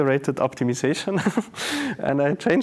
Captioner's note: laughing